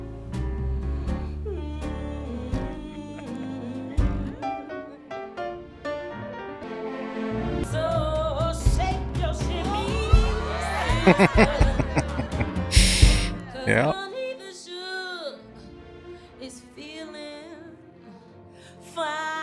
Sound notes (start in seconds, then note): 10.6 laughing